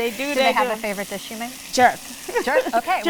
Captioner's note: laughs; laughs